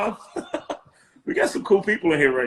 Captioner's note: laughing